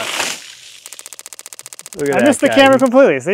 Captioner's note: board clicking